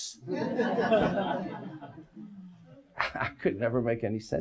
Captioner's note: audience laughs